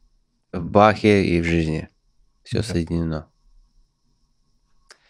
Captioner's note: speaking in Russian